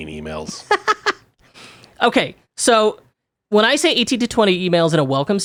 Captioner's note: laughs